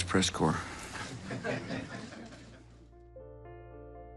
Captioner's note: laughter